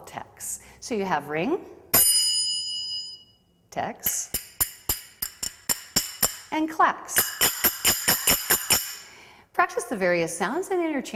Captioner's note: ringing; clacking